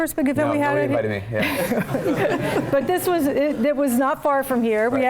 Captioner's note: laugh